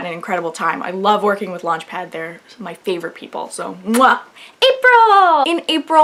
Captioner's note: blows kiss